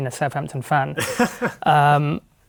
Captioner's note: laughing